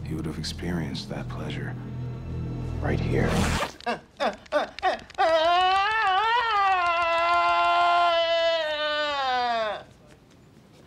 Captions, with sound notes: HE WOULD'VE EXPERIENCED THAT PLEASURE RIGHT HERE. [pants unzip] [groaning loudly]